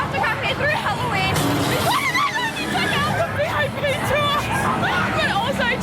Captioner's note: scream